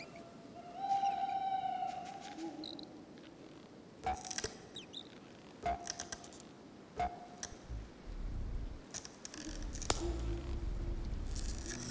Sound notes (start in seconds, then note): 0.0 howling wind; 5.6 cracking